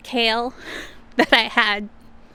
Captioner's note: laughs